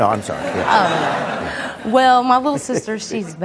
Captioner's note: audience laughing